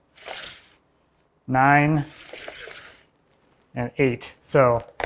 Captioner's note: tool sliding